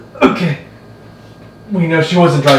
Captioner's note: Ethan gagging